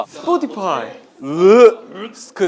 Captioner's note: gagging